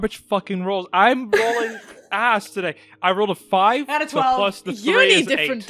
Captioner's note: Zoe laughs